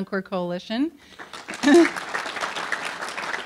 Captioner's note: applause